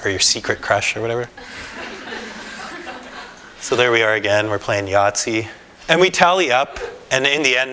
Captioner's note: laughter